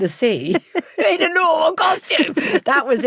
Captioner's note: laughs